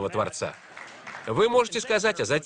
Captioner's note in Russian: Аплодисменты